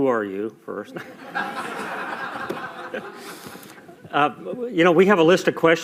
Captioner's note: laughter